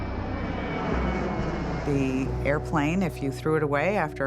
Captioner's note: jet engine roaring